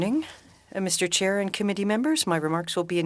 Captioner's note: speaking French